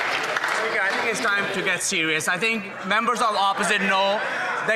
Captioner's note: some Applause